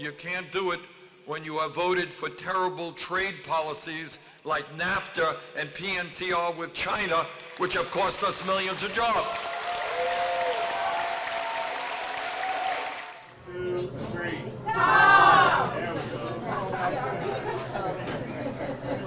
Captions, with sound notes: can't do it when you have voted for terrible trade policies like NAFTA and PNC all with China, which have cost us millions of jobs. (applause)